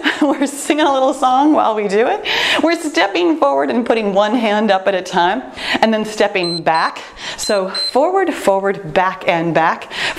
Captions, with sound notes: We're singing a little song while we do it. We're stepping forward and putting one hand up at a time. And then stepping back. (timer beeps) So forward, forward, back and back,